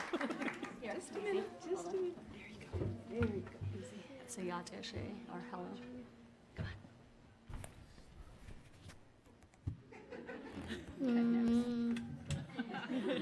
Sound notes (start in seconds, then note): 4.8 speaking in foreign language; 10.2 audience laughs